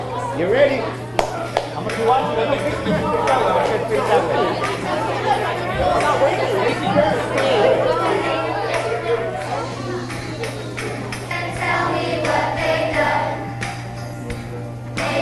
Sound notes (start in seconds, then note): 1.1 claps; 5.0 students chattering